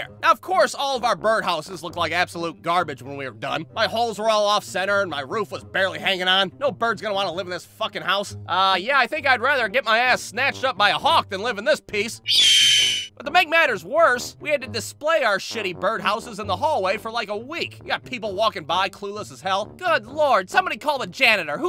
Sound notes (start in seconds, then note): 12.2 hawk call